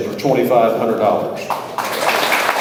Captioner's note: audience applauds